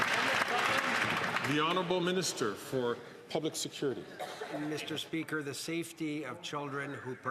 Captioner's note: some Applause